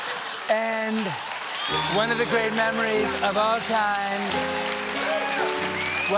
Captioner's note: laughter